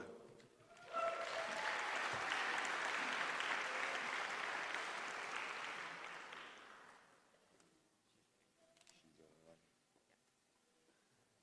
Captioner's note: applause